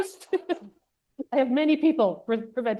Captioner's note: laughs